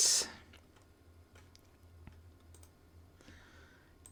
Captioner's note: silence